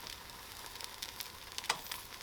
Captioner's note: sizzle sizzle